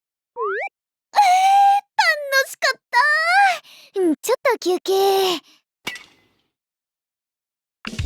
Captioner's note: clank!